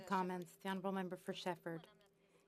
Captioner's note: speaking French